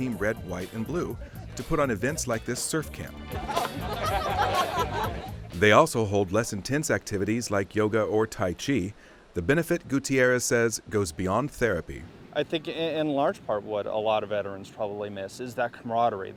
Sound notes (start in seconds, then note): 3.2 laughter